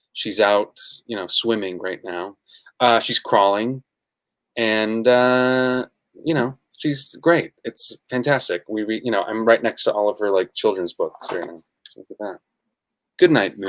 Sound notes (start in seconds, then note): none